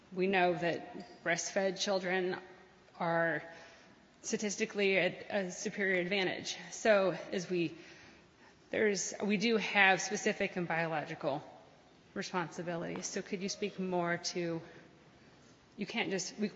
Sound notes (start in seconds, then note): none